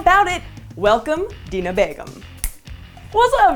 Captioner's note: snap